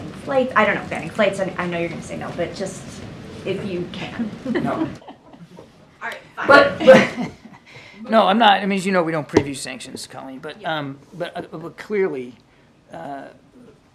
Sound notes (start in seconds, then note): 4.4 laughter; 7.3 laughs